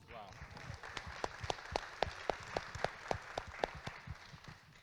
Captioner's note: audience claps